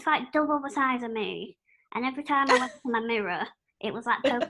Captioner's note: laughter